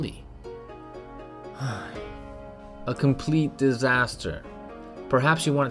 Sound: sigh

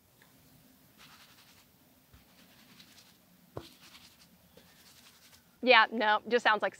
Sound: slight swishing

